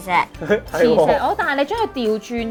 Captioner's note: laughing